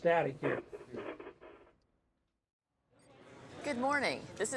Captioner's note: static crackling